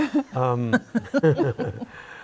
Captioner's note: chuckles